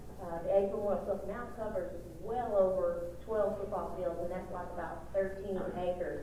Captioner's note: audio distortion